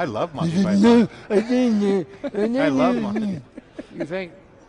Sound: imitates extreme gibberish

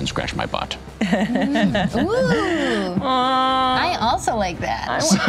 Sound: laughter; laughter

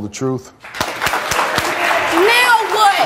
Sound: applause

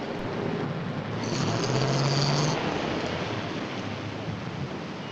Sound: car rumbling

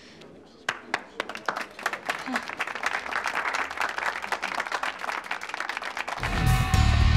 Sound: audience claps

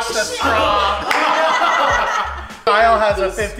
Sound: laughing

